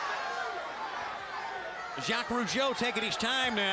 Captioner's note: crowd chatter